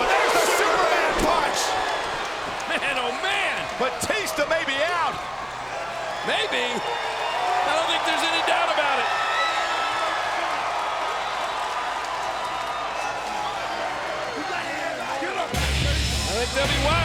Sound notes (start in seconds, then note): 10.1 audience cheers; 15.6 dramatic music